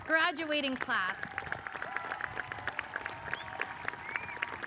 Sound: audience applauds

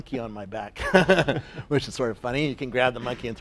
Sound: laugh

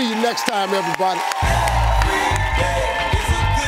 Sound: clapping

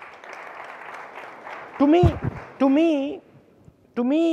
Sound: audience applauding

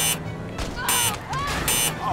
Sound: beep; beep

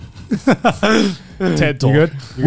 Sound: laughing

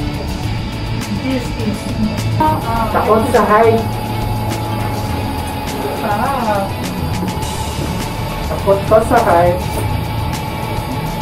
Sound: indistinct chatting

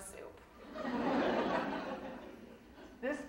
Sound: audience laughing

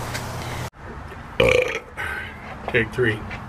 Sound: burp

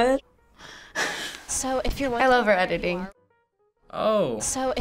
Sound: laughs

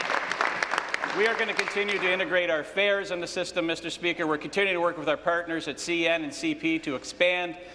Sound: applause

